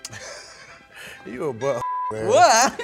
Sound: laughs; beep

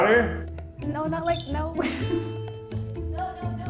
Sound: laughs

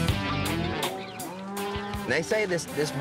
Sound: mooing

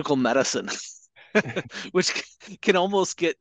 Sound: laughing

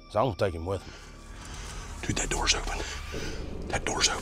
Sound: whispering

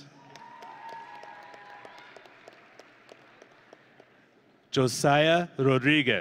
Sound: audience and graduates cheering

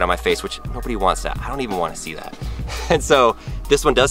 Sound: laughs

